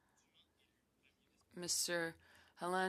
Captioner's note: speaking French